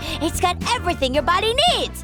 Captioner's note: none